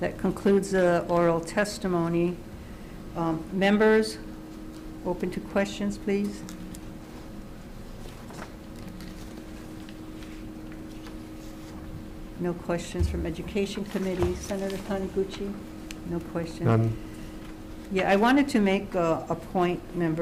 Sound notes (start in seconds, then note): 8.7 paper rustles